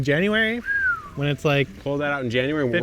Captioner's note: whistles